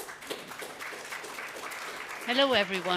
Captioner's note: audience applauding